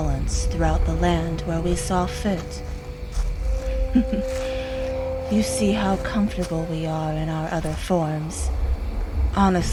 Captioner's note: chuckles